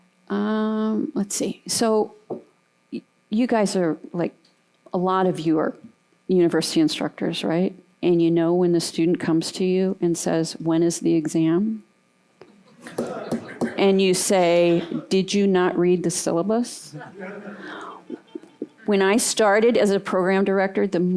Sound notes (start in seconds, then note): 12.5 laughter